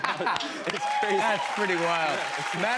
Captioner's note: cheers and applause